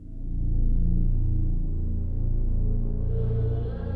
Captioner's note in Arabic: none